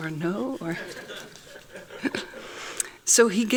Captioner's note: laughing